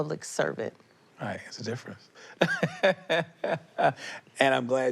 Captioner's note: laughs